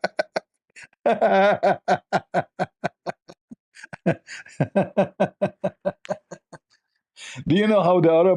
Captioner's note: Ketawa